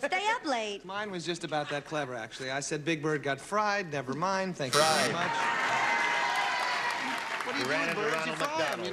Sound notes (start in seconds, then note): 4.9 cheering